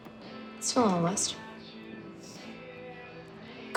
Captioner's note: sniffs